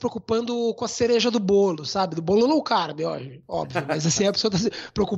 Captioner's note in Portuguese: risos